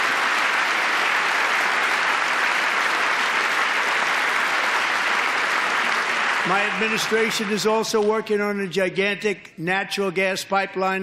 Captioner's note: applause